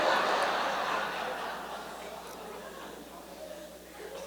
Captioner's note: laughter